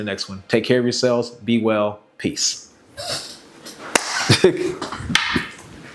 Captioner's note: laugh